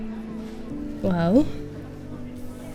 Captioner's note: in irish